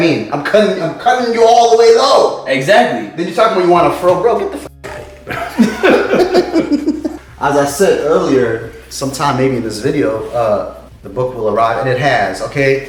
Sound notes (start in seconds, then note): 5.2 laughing